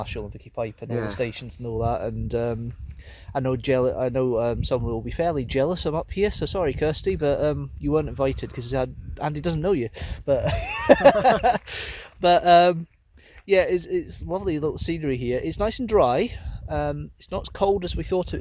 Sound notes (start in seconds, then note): 10.4 laughs